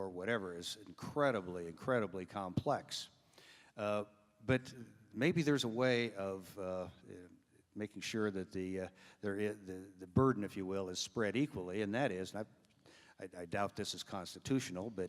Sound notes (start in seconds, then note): none